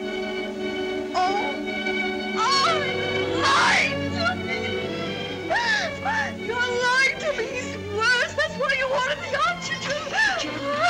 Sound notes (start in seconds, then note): 0.1 dramatic music; 3.2 crying